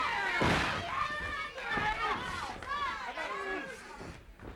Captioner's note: crowd yelling